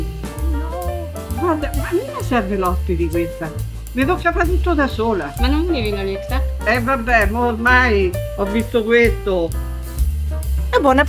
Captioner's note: sisters speaking Italian